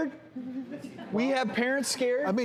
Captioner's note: audience laughs